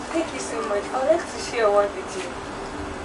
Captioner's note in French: none